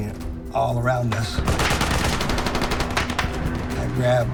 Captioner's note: soldiers shouting